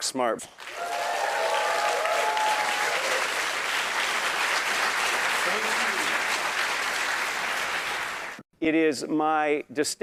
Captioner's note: applause